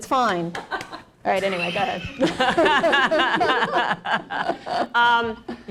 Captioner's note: laughter